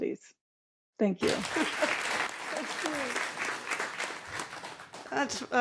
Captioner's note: applause